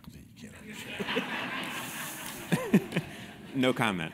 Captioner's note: laugh